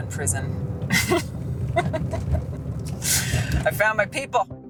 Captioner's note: laughs